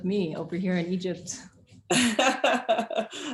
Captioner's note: chuckles; laughs